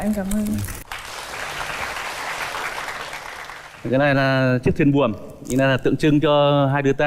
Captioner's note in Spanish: Aplaudir